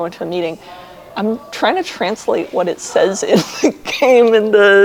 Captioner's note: laughs